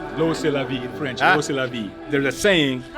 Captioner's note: speaking in foreign language; speaks in foreign language